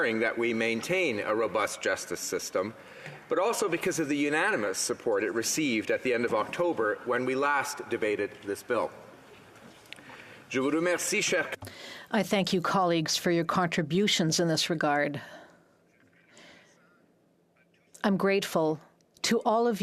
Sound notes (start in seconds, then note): 13.9 speaking French